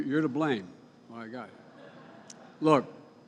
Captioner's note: laughter